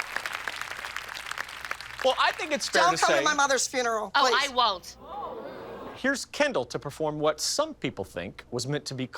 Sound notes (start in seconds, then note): 5.2 audience gasping